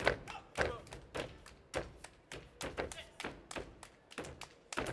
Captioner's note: hands clapping and feet stomping